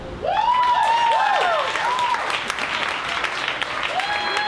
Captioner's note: audience applauds and cheers